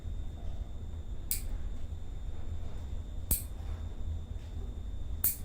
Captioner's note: nail clippers click